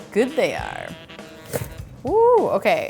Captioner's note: rattling